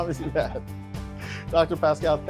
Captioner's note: laughng